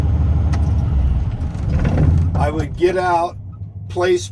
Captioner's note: engine powering down